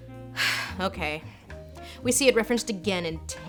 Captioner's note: sighs